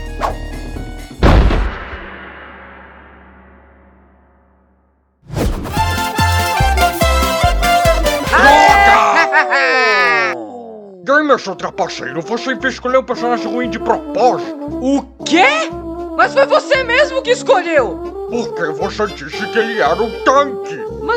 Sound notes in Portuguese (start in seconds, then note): 1.8 Gongo de final de luta